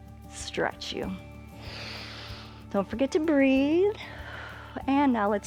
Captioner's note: inhales